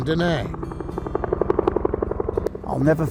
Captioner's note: helicopter whirring